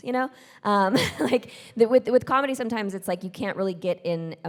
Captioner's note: chuckles